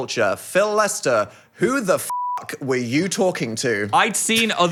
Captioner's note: beep